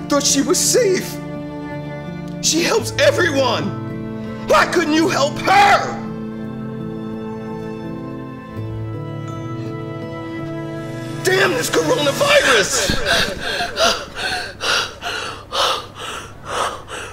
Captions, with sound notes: I thought she was safe. She helps everyone. Why couldn't you help her? (somber music) Damn this coronavirus. (Mary breathing heavily)